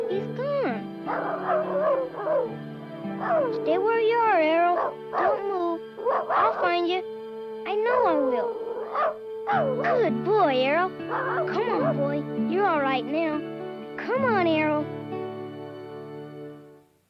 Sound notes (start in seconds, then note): 1.0 Arrow barking